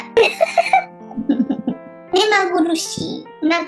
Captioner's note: laughs